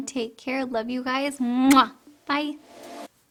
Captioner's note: kisses